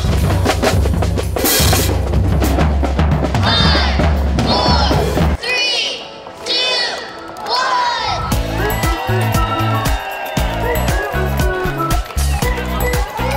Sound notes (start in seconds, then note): 8.1 cheering; 10.4 optimistic music